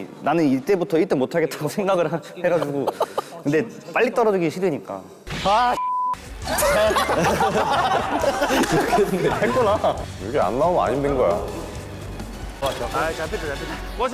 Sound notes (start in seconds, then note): 5.3 shouting his tired and desperate heart; 6.4 laughing